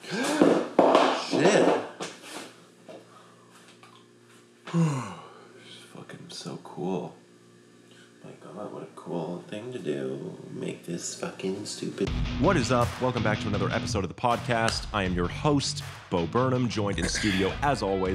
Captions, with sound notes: (gasps) Shit! (object clattering on floor) (yawns) Oh, this is fucking so cool. My God, what a cool thing to do, make this fucking stupid— (HARD ROCK MUSIC PLAYS) What is up? Welcome back to another episode of the podcast. I am your host, Bo Burnham, joined in studio as always